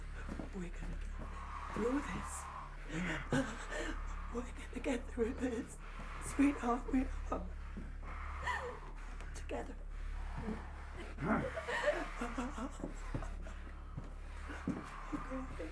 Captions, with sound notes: - We're gonna get through this [whimpers], we're gonna get through this, sweetheart, we are! Together, hmm? [Clown grunts] [sobs] We're gonna get.